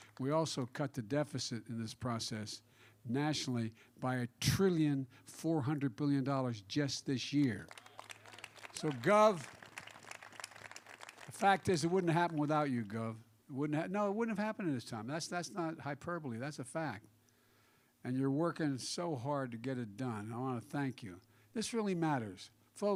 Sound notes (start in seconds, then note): 7.4 applause